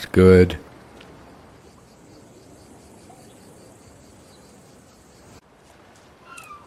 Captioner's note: birds Chirping